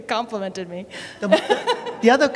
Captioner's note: laughter